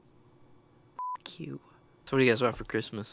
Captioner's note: beep